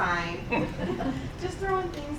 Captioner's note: laughing